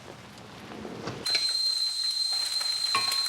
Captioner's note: kettle whistling